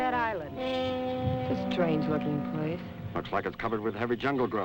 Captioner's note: pat